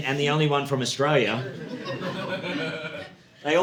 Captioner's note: audience laughing